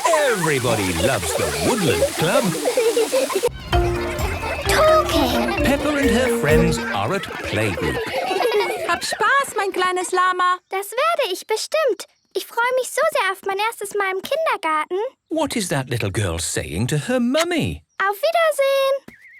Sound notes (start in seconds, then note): 1.4 laughter; 8.1 laughter; 8.1 speaking German